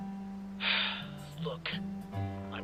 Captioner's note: sigh